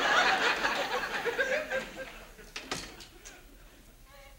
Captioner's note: audience laughs